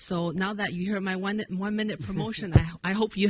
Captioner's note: president chuckles